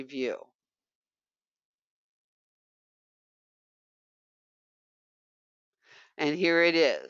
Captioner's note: 5 seconds pause